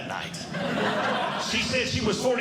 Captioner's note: audience Laughing